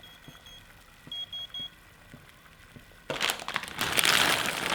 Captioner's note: beeps